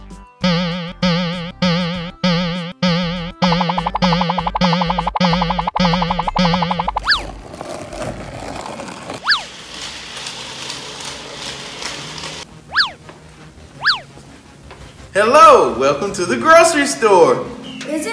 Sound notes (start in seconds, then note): 0.4 boinging; 7.4 wheels grating; 13.7 upbeat music